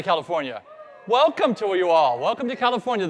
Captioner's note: crowd cheering